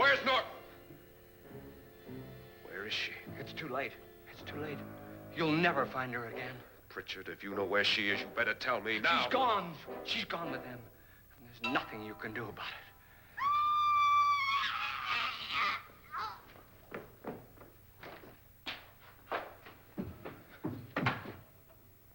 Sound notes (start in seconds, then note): 13.3 screaming; 16.5 choking